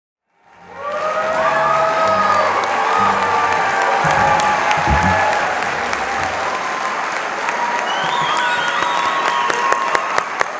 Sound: crowd cheering

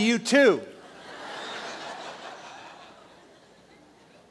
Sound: laughter

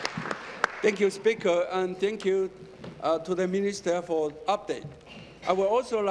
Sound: applause

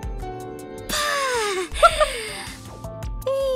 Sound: gasps

